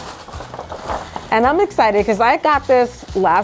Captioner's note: gift bag rustles